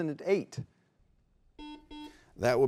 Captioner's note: buzzer beeps